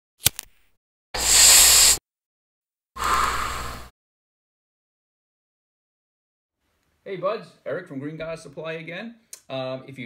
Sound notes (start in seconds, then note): 1.2 inhale; 1.2 lighter sparks; 3.0 exhale